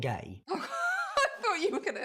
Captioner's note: laughter